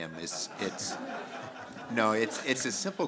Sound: laughter

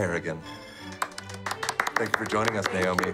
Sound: applause

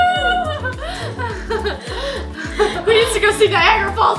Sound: laughs

